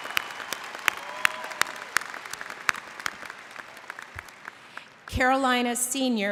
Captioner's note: applause